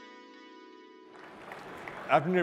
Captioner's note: applause